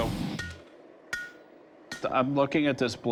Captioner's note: clanging